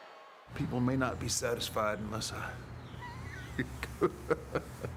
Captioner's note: chuckles